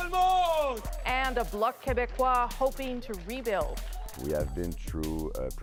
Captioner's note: speaking French